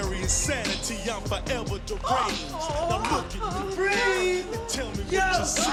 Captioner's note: woman screaming